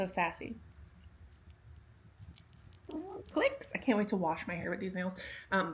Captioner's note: nail clickys